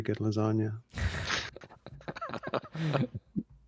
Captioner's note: all chuckle